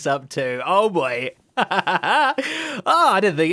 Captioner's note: laughs